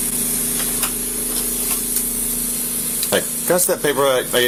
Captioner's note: door clicks open